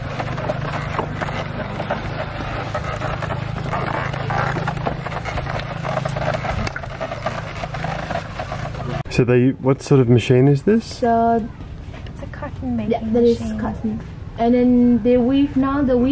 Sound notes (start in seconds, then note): 2.5 waggon creaks